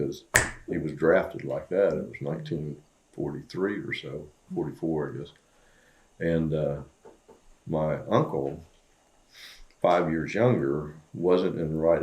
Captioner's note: snaps